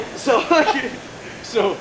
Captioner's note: both laugh